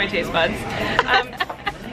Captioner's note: laughing